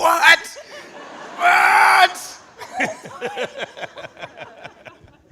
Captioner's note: audience laughing